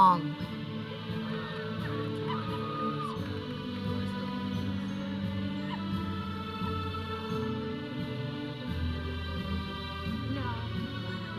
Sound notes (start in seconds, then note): 1.2 audience cheering; 3.4 processional music